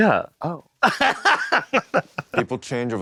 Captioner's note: chortles